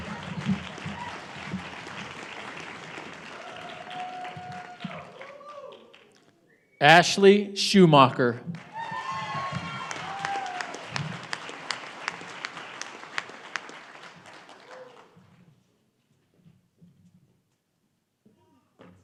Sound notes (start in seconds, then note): 1.8 applause